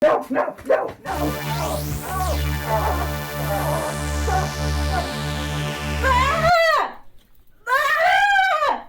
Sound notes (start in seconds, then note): 1.2 eerie sci-fi whirring; 6.0 Delia yelling